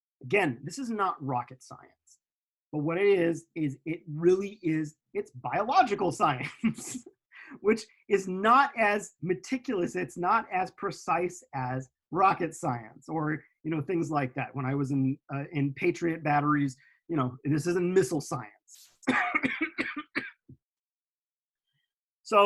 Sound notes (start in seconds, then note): 6.5 laughs; 19.1 coughing